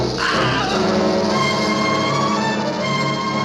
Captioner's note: groaning